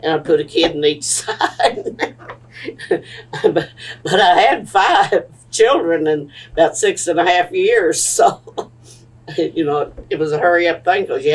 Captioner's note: laughs